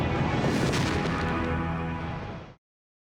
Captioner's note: explosion